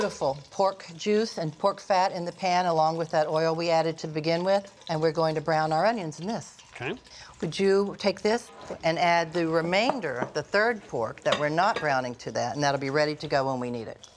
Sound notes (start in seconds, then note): none